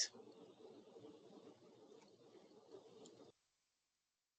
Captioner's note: wind blowing